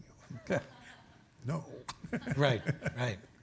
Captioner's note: audience chuckling; laughs